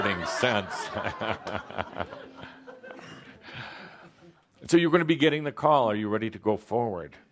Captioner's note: more laughter, chuckling